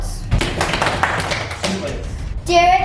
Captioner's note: all clapping